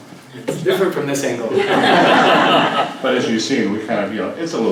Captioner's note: laugh